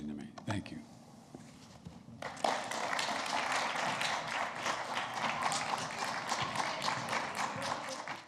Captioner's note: applause